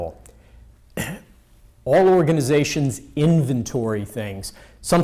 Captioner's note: clears throat